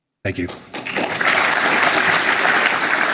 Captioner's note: applause